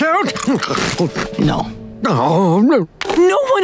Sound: moaning

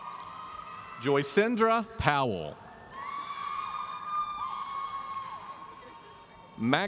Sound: audience cheering

